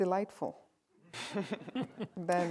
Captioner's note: laughter